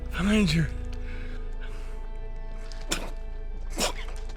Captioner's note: Liam chocking